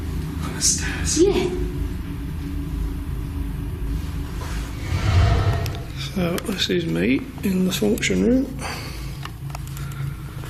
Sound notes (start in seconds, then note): 4.7 whooshing